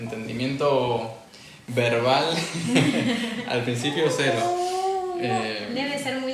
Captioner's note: laughs